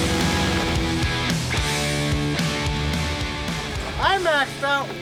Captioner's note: motor stops